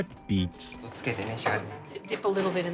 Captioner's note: speaking Japanese